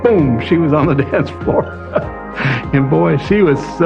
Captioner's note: chuckles